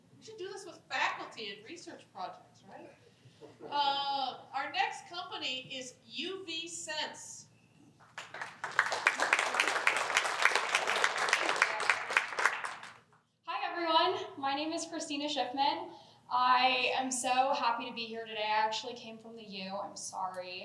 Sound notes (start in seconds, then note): 8.0 applause